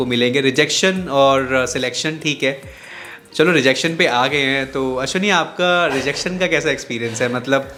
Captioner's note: laughs